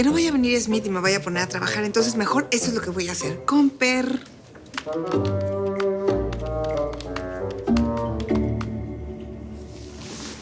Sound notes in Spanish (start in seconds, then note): 4.5 Tecleo